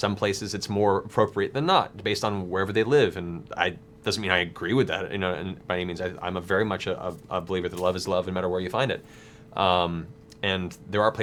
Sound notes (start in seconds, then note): none